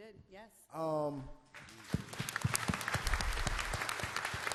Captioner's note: applause